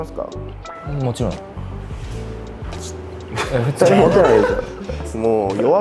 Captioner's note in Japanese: 笑い